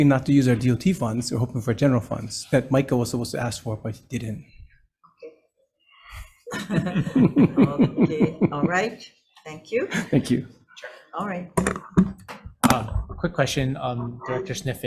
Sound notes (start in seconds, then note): 6.1 chuckling; 6.1 laughing